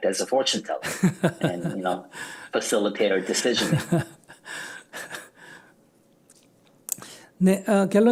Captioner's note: laughter